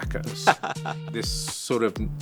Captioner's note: laughter